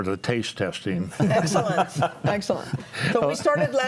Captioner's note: panelists laughing